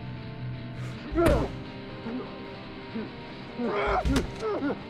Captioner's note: men grunting